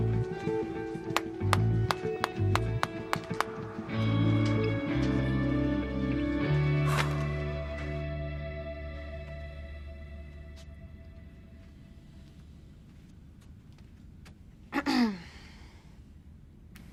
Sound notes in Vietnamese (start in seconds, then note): 9.3 tiếng vọng từ khoảng không; 14.8 e hèm